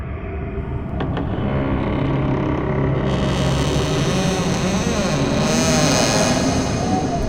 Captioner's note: door creaking open